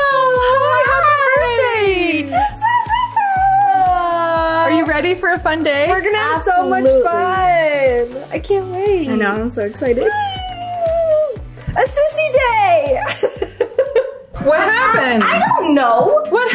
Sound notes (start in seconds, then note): 13.2 laughs